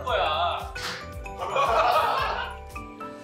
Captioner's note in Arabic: يضحكون بمحبة